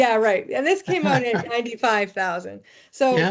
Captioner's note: laughing